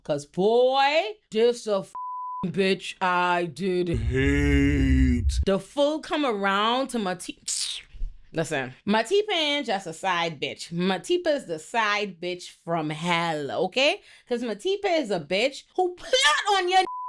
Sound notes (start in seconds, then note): 1.9 beep; 7.8 scoffs; 16.8 beep